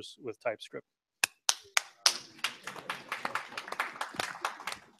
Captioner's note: scattered applause